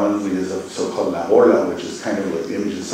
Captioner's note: spanish